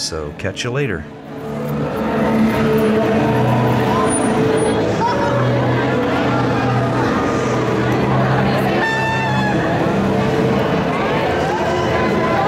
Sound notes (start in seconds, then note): 5.1 parade and crowd sounds